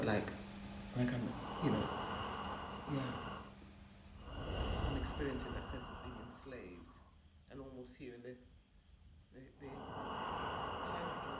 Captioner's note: breathing